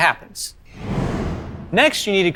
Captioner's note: air whooshing